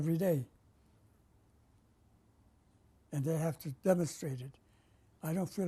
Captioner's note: pauses for 3 seconds